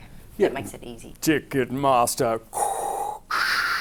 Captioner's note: Dath Vader breathing